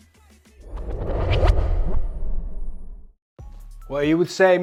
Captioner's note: transition whooshes; upbeat music